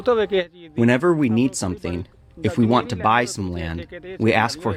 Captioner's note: through translator